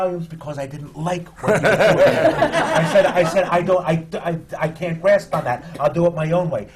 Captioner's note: laughter